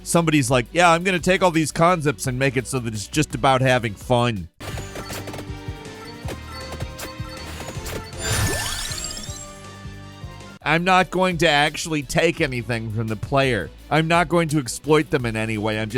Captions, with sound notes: Somebody's like, "Yeah, I'm gonna take all these concepts and make it so that it's just about having fun." (dramatic upbeat music) (game chiming) I'm not going to actually take anything from the player. I'm not going to exploit them in any way.